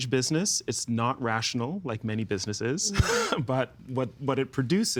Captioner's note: chuckling